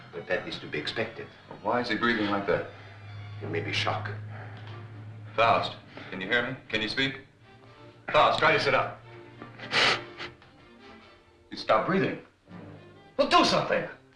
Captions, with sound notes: but that is to be expected. - Well why is he breathing like that? - It may be shock. - Faust, can you hear me? Can you speak? Faust, try to sit up. (Faust breathes heavily) He stopped breathing. Well, do something!